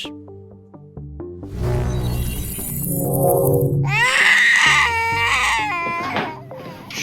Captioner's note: baby crying